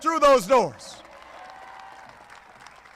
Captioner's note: applause